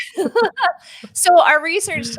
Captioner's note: laughing